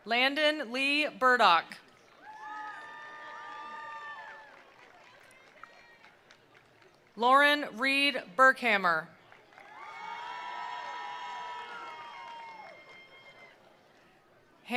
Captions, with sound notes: Landon Lee Burdock. (attendees applauding) (attendees cheering) Lauren Reed Burkhamer. (attendees applauding) (attendees cheering)